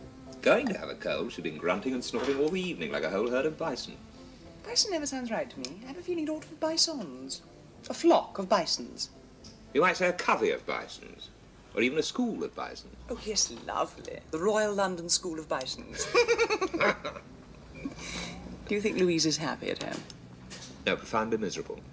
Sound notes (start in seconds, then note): 15.9 they laugh